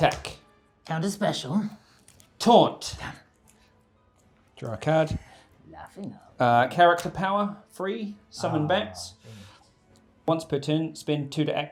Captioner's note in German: Lacht